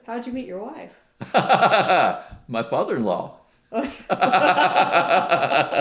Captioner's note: laughter